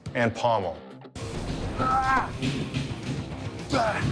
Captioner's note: grunting